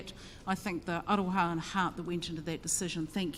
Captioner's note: speaks in foreign language